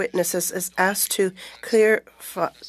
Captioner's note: speaking French